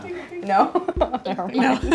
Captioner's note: laughing